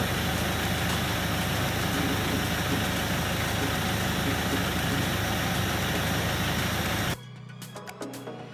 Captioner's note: diesel engine sounds continue